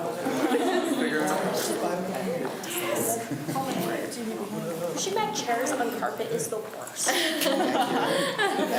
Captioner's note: students talk amongst themselves; laughs